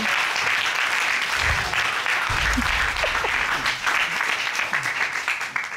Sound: applause

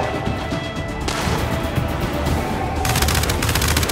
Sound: gunfire

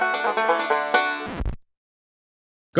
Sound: upbeat Banjo Music; record Scratch

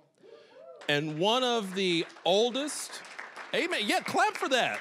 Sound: applause

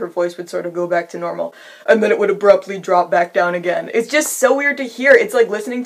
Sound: sharp inhale

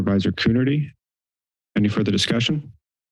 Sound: silence

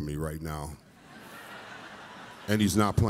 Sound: audience laughs

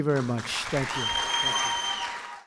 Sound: applause

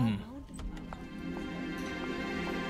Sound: door opens

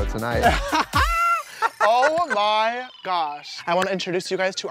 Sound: chuckles

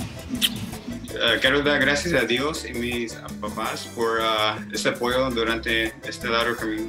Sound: speaks in foreign language

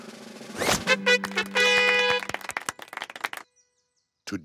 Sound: crowd applauding

